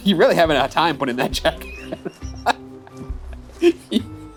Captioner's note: laughs